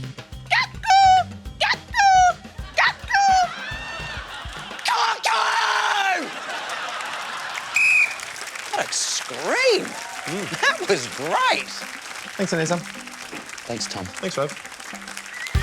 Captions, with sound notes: Cuckoo! Cuckoo! Cuckoo! Cuckoo! (LAUGHTER) (BLOWS WHISTLE) What a scream! Mm. That was great. Thanks, Anisa. Thanks, Tom. Thanks, Rove.